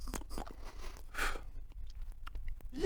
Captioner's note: pfff